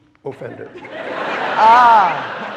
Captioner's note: audience laughing